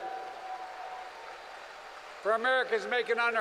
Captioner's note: applause